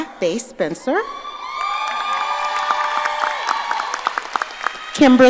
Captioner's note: audience cheering